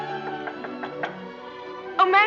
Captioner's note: knock on door